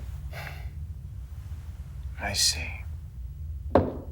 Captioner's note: sighs